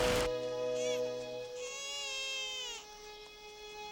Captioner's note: baby crying